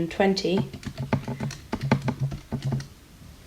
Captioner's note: typing on calculator